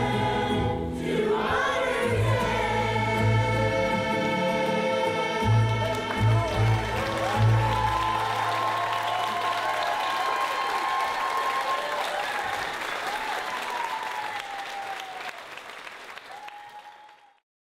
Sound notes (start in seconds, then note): 6.3 crowd cheering